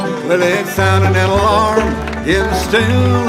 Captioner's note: audience applauding